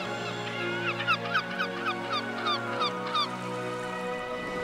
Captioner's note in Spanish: olas lamiendo; pájaros graznando